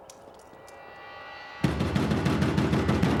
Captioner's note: pounds on the door